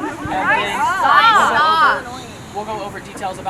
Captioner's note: people shouting